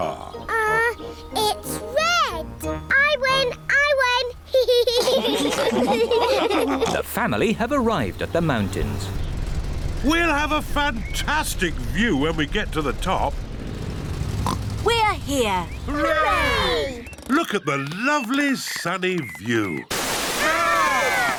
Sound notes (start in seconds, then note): 0.0 laughs; 4.5 all laugh; 14.4 oinks